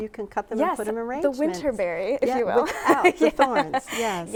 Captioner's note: chuckling